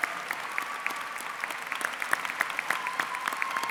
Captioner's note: cheering and applause